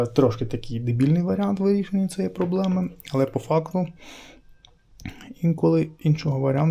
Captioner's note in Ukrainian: сопіння